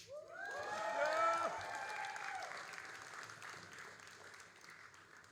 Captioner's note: all applauding and cheering